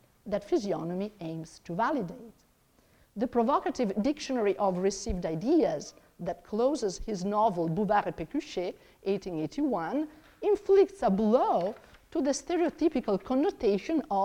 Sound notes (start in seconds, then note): 8.0 speaks in foreign language